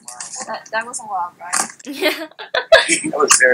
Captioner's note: yep. *laughs